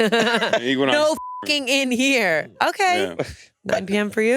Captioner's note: laughs; beep